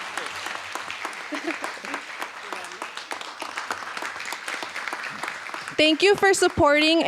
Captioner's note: applause